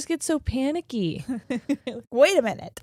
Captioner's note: laughing